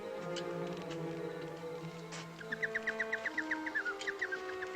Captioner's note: birdcall